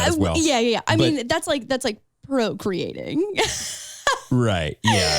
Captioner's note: laughs